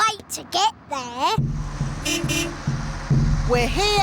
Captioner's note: horn beeps